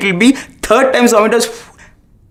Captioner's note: blows